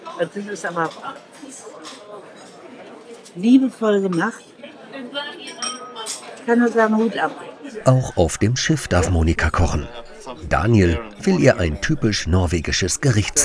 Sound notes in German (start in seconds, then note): 5.5 Teller klappern